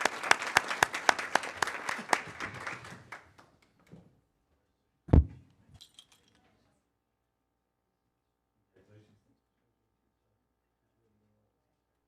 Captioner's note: applause